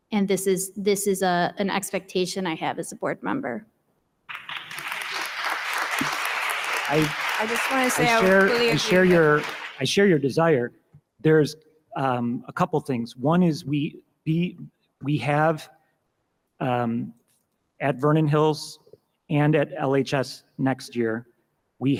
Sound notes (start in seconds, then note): 4.3 audience applauding